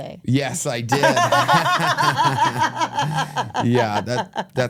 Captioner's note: everyone laughing